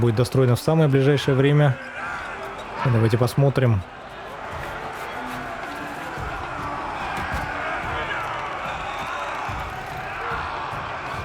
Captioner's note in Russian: крик